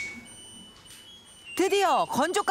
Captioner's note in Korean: 알람 소리